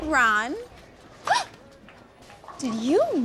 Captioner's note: gasps